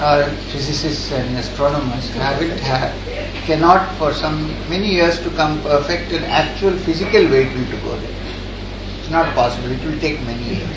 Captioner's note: laughter